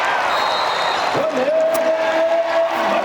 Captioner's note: whistle